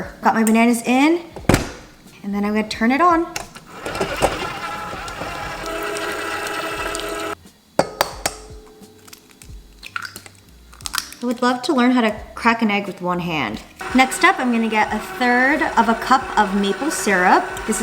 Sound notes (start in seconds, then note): 3.4 mixer whirring